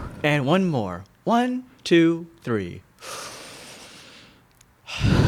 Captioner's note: inhaling and exhaling audibly